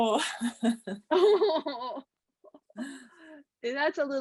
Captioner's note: chuckling